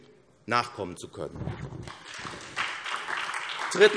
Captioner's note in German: Beifall SPD